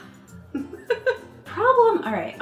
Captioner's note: chuckling